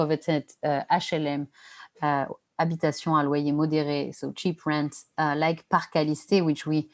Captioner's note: non-english speech